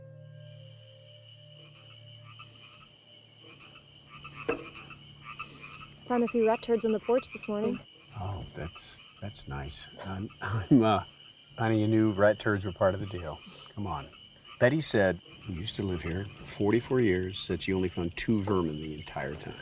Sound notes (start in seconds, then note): 0.6 frogs croak; 0.6 insects chirp